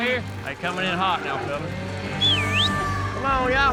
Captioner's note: whistles, exclaims